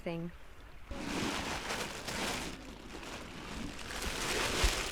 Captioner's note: plastic bag rustling